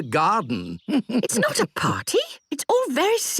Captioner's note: chuckles